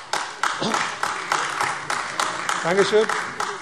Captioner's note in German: Beifall AfD